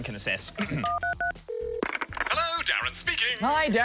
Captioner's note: clears throat; phone rings